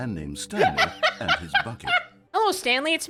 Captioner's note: somber music; laughs